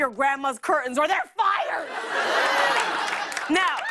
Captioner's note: laughter